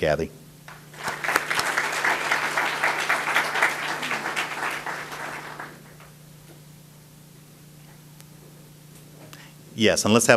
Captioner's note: audience applause